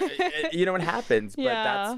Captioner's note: chuckles